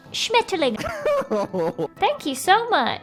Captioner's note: laughs